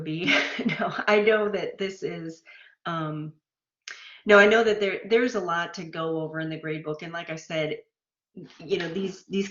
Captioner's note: laughter